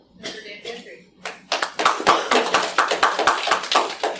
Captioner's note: applause